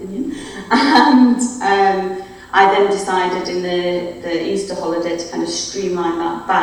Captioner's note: laughs